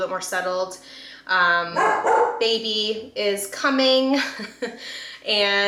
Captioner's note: Trevi barks